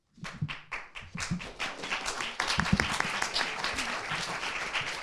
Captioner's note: audience applauding